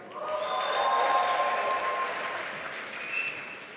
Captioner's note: applause